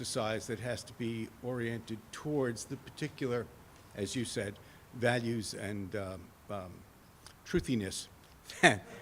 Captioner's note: laughs